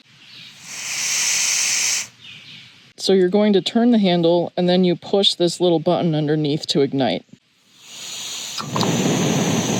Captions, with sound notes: [hissing noise] So you're going to turn the handle, and then you push this little button underneath to ignite.